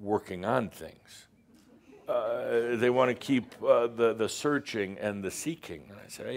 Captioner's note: a few chuckles